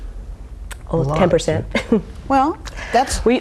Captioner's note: laughs